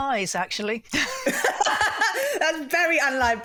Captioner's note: laughter